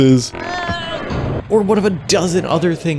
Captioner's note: groan